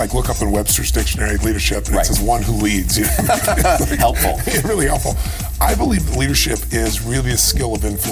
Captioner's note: chuckle